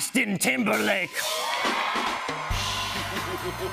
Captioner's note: cheers and applause; evil laughter